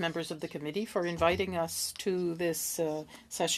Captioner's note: speaking French